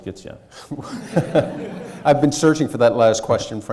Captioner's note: audience and chuckling